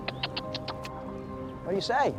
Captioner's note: tongue clicking; otter chirping